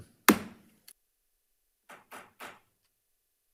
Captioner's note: gavel tapping